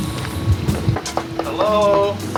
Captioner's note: knocking